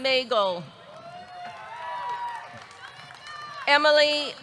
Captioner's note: audience cheering; audience clapping